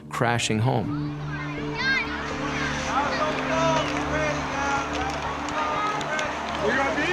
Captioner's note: people talking in background